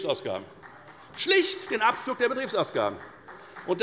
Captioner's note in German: Beifall des Abg